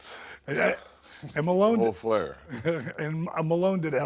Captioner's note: laughs